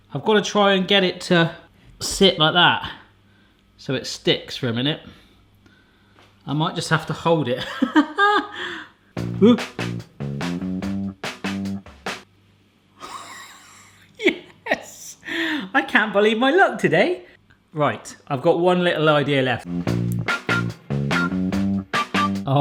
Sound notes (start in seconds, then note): 8.0 laughs; 9.2 upbeat music; 19.6 upbeat music